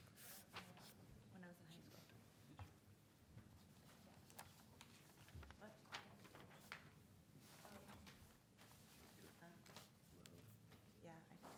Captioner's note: speaking away from mic